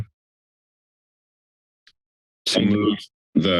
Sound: silence

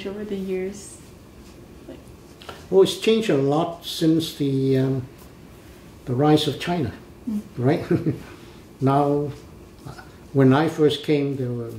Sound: laughs

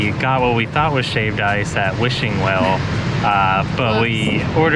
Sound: laughs

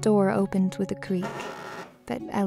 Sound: door creaks

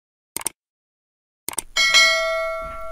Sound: mouse clicks; bell dings

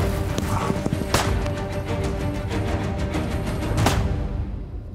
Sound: gunshots ring

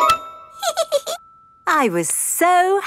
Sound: giggles

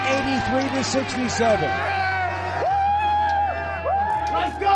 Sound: hall cheering

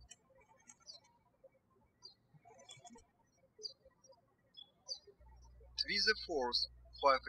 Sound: birds chirping

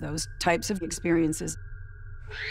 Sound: girl screams

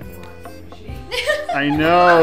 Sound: laughing

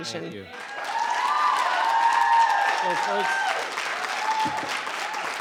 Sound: audience cheering

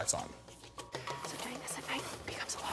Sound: whispering

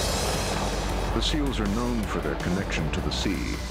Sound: voiceover

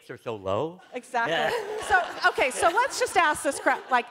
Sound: laughter

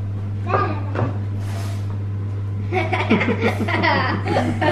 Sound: children laughing

